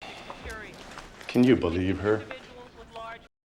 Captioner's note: chuckles